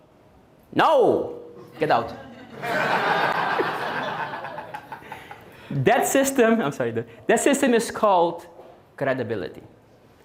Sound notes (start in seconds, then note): 2.0 audience Laughing